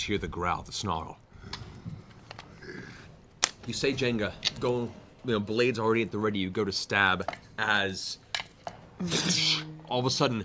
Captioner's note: snarling; swooshing